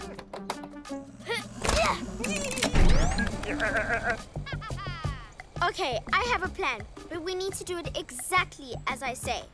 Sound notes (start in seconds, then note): 3.0 evil laugh; 3.1 chuckles